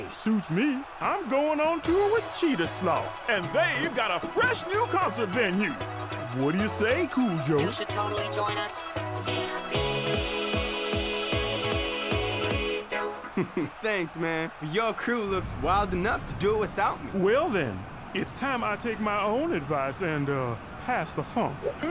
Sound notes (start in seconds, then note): 7.5 electronic voice; 13.2 chuckling